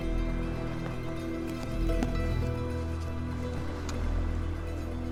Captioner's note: notebook rustling